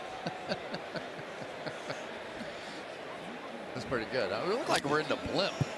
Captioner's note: laughs